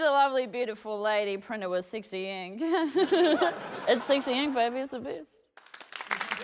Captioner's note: chuckles; applause